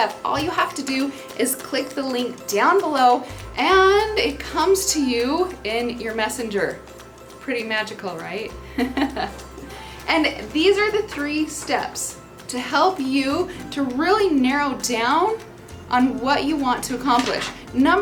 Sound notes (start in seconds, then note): 8.7 laughing